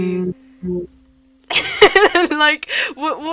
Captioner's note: laughter